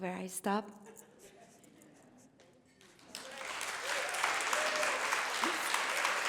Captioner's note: applause